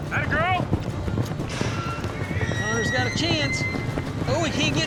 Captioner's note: hoofbeats